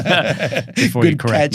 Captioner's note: both laughing